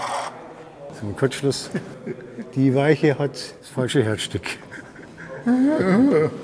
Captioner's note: laughs